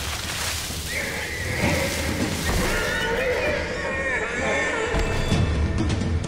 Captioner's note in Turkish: At kişneme sesi